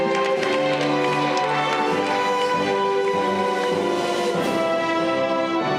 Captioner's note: audience cheering